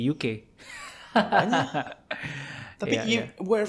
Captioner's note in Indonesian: tertawa